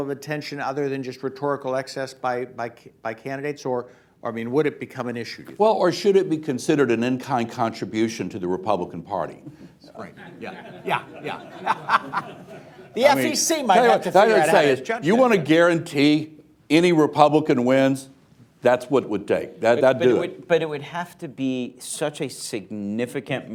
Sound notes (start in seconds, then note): 9.9 laughs; 10.1 laughter